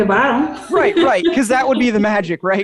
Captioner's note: chuckles